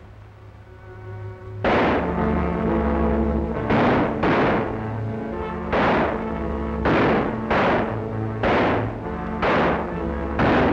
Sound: gunfire

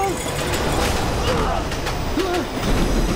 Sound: grunting

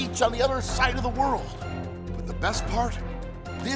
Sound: none

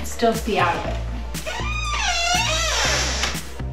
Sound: door creaks

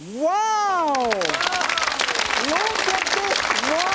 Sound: audience clapping

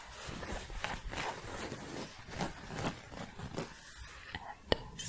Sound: scratching

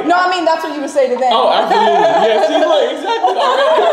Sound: laughing

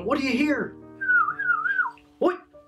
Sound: whistles

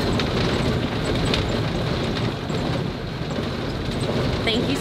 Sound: engine rumbling

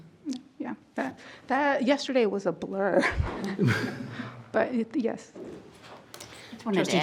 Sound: chuckles

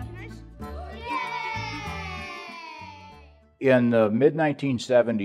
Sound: all cheer

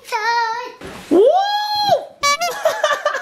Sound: shouts; laughs

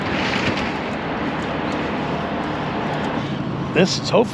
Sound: clattering

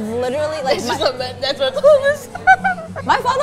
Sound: giggles

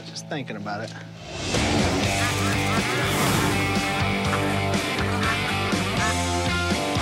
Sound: upbeat rock music; ducks quack

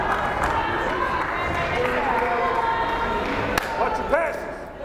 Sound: crowd chattering

